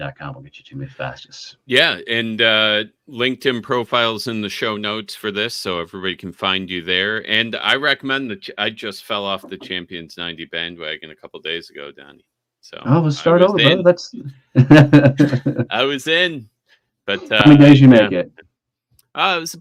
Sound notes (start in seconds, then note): 14.6 chuckling